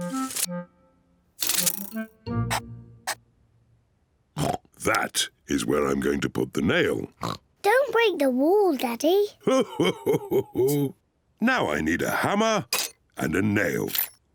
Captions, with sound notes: (OINKS) That is where I'm going to put the nail. (OINKS) Don't break the wall, Daddy! (CHUCKLES) Now I need a hammer and a nail.